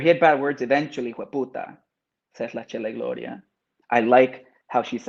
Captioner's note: speaks Spanish